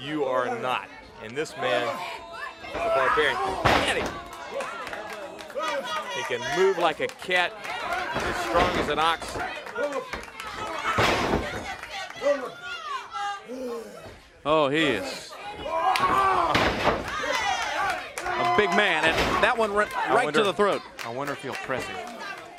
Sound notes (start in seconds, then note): 9.9 crowd chatter